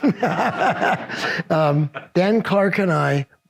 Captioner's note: all laugh